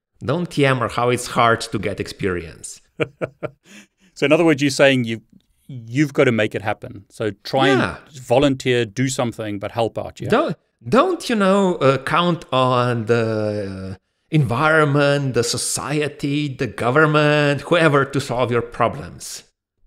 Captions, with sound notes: Don't DM on how it's hard to get experience. - (laughs) So in other words you saying you've got to make it happen. So try and volunteer, do something but help. - Don't count on the environment, the society, the government, whatever to solve your problems.